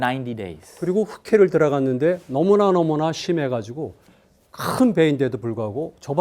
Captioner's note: speaking in Korean